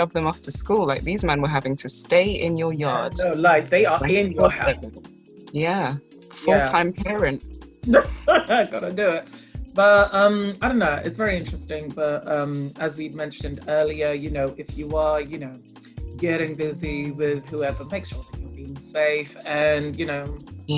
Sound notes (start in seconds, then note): 7.9 laughs